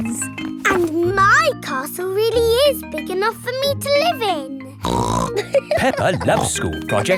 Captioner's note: snorts and laughs